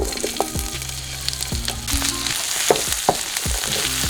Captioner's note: cooking oil fizzes